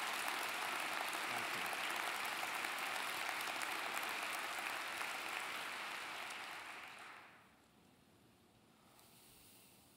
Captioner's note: applause